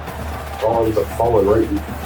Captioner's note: crowd Noises